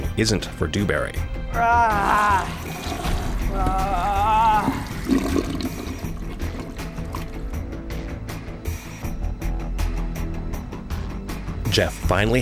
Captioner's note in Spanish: gemidos en el dolor